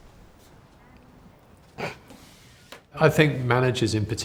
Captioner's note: women chuckling